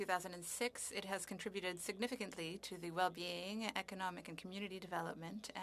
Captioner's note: speaking French